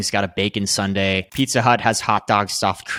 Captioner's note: screen clicking